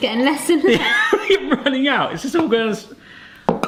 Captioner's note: laughs